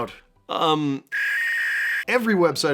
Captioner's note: dial-up tone